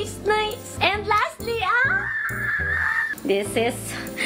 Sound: happy girl squeeeeals

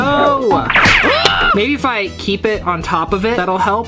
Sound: yells

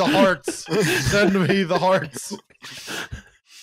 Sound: laughter

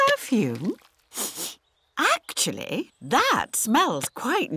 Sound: sniffs

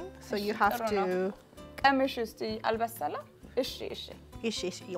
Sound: speaking Amharic

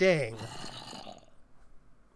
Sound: zombie growls

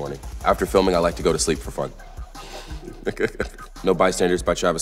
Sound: chuckles

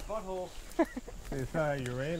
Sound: laughter

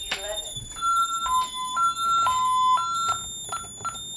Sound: beeping pulsing from high to low; keypad beeps x5

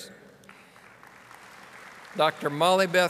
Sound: audience applauding

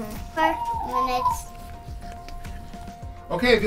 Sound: owl sounds

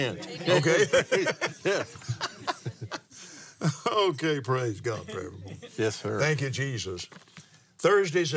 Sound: laughs

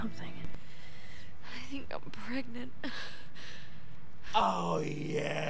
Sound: sighing

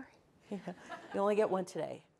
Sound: audience laughing

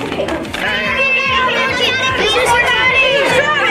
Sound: chattering

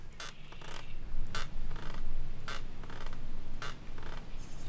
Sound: wood creaking

